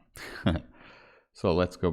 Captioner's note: narrator chuckling